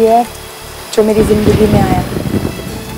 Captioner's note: Clouds thundering